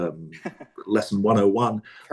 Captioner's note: laughs